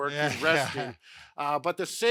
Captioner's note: chuckles